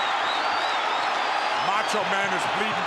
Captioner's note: crowd cheering